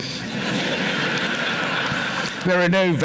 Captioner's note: laughter